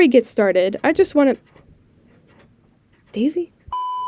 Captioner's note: dog Scratching at Door